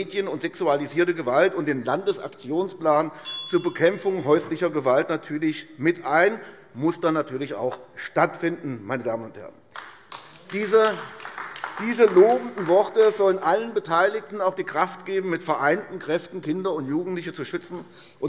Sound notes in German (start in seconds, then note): 9.7 Beifall AfD